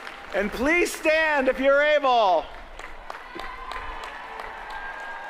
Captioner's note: applause